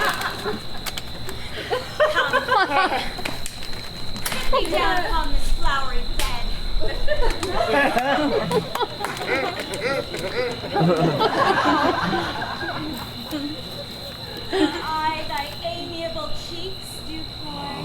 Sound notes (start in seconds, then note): 7.4 audience laughs; 9.4 Bottom laughs